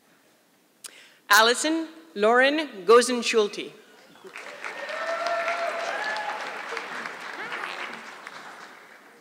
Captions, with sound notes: Allison Lauren Gosenschulte. (audience clapping) Hi.